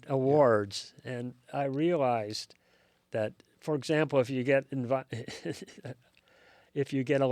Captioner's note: laughs